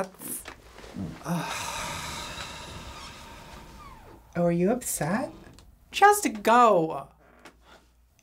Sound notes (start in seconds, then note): 0.8 scoffs